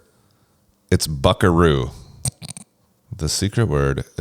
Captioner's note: laughs